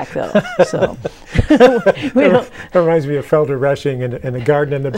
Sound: laughing

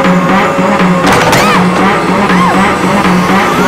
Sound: screams

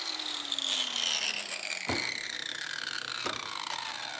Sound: machine is switched off

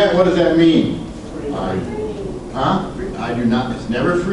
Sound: class chatters

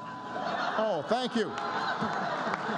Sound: laughter and applause

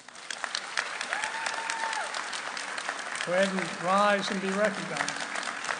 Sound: cheering

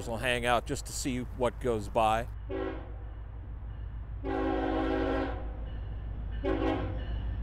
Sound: train whistle; bell

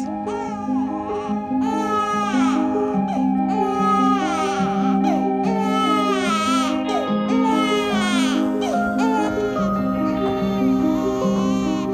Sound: baby crying

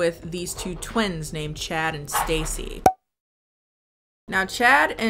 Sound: cork pops

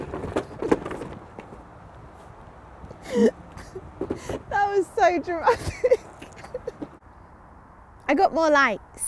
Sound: laughing

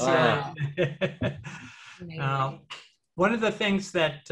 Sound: laughs

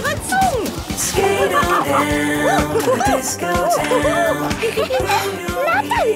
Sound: laughing and exclaiming

